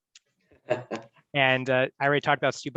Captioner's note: giggles